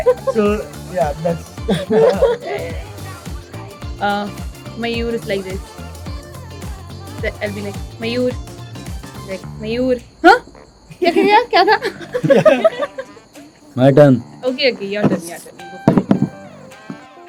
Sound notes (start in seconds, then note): 10.9 laughs